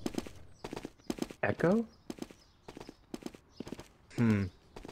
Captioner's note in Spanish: Arrullo de paloma